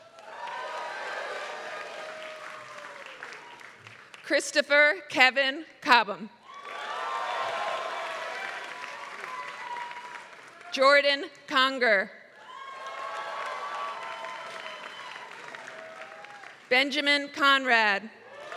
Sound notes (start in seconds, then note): 0.0 applause; 6.5 applause; 12.4 applause